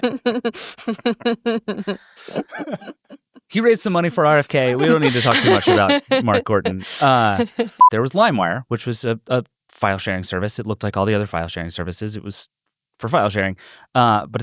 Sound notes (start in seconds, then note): 0.2 everyone laughs; 7.8 beep